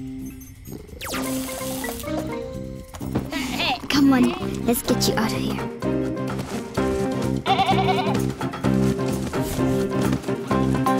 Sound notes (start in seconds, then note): 3.2 soft bleat; 7.1 adventure music; 7.4 bleating in fear